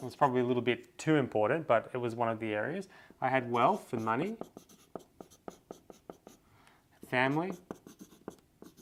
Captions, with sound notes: and it's probably a little bit too important, but it was one of the areas. I had wealth and money. (pen tapping) Family.